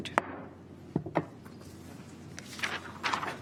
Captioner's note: gavel bangs